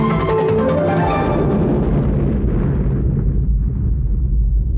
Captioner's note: explosion blasting